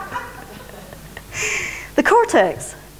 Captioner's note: laughter